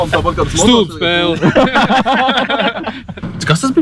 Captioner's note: laughs